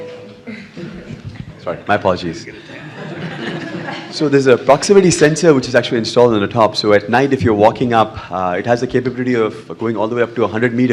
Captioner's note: laughter